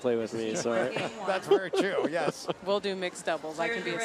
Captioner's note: laughs